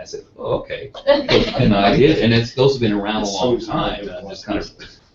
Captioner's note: laugh